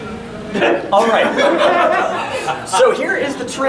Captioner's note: audience laughing